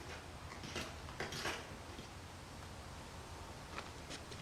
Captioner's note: footsteps crunching